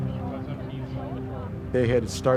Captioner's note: talking in background